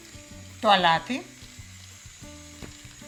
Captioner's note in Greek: σιγή